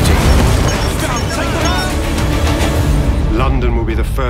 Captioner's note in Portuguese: vozes